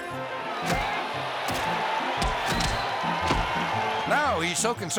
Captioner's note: crowd cheering